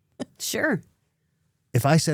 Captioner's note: laughs